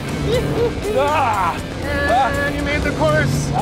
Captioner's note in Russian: все кричат, страшно обоим